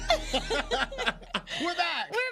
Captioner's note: gentle music; both laughing